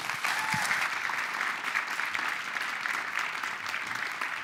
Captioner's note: applause